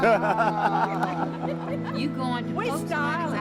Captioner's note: laughter